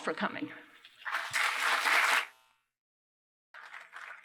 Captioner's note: applause; applause